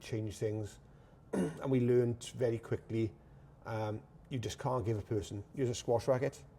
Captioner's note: clears throat